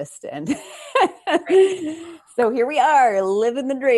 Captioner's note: chuckles